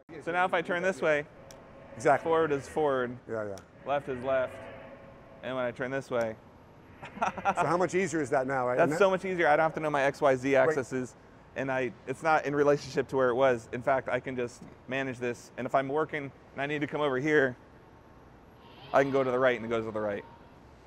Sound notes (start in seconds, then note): 7.0 they laugh